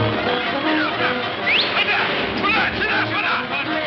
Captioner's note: suspenseful orchestral music; Pancho whistles; Pancho speaking in Spanish